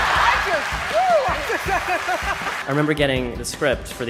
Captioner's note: laughter